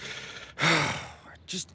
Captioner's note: sighs